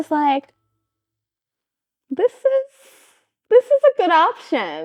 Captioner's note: blank Audio